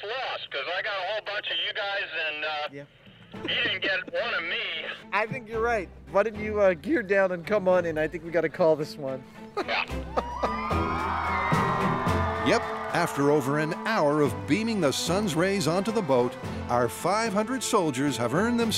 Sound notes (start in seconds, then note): 9.5 laughs; 10.0 cheers and applause